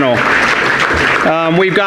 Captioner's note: audience applauding